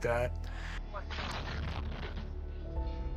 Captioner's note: loud blast